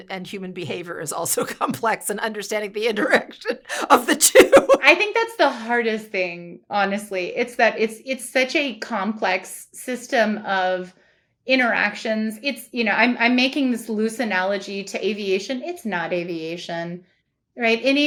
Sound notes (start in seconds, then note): 3.7 chuckles